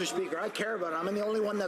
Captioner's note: some Applause